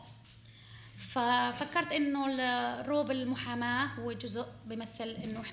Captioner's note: speaking arabic